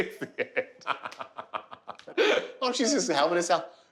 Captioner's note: laughing